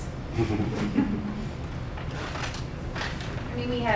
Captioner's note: laughing